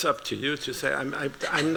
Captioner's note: laughter